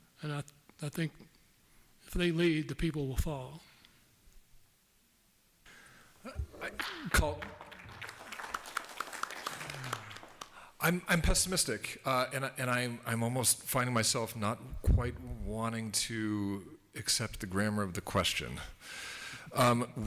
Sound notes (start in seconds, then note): 6.6 applause